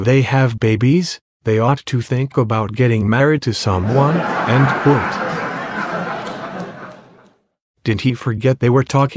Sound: laughter

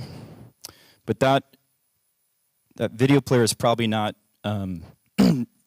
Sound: cough

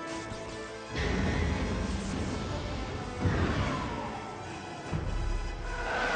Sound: thrusters

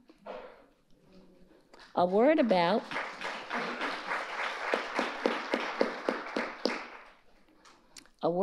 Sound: audience applauding

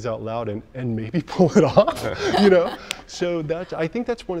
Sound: laughing

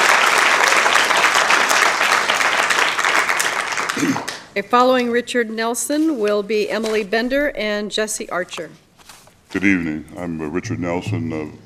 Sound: applause

